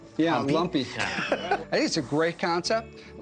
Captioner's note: laughs